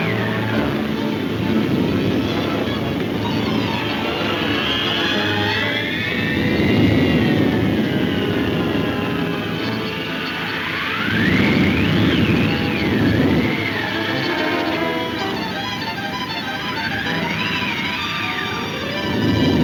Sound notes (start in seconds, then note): 10.5 wind whooshing; 13.4 dramatic music; 16.9 wind blowing